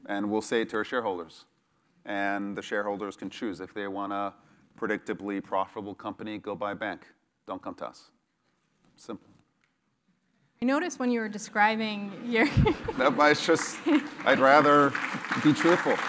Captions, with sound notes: And we'll say it to our shareholders, and the shareholders can choose. If they want a predictably profitable company, go buy a bank. Don't come to us, simple. >> I notice when you were describing you're [LAUGH] >> [LAUGH] [APPLAUSE] >> I just, I'd rather be truthful.